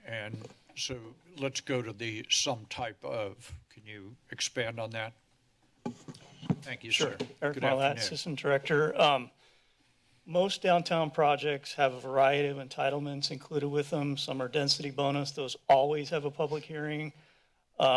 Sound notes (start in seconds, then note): 5.7 mic noise